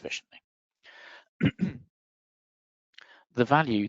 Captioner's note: coughing